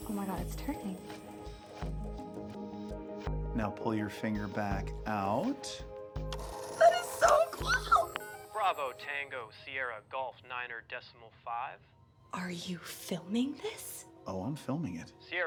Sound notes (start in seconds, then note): 6.3 phone whirs